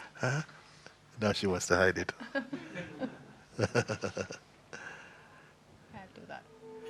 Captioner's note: laughs